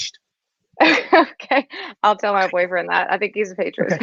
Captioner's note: laughs